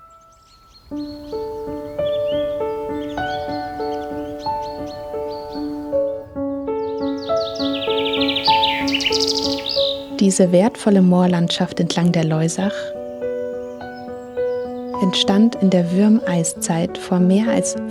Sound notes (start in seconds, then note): 3.0 piano music playing; 6.2 birds chirping